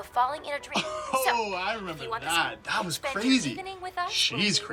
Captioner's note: laughs